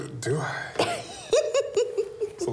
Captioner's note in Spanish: risas